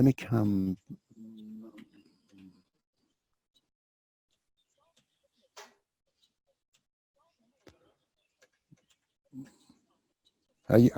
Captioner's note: pause